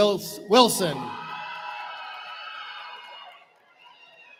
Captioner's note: cheering